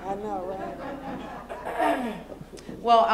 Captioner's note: laughter